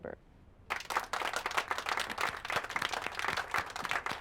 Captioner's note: group applauding